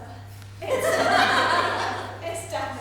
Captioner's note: audience laughs